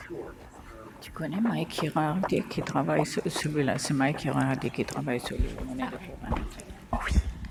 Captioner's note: speaking french